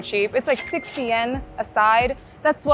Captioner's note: chime ringing